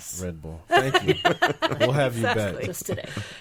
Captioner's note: laughing